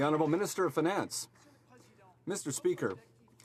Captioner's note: some Applause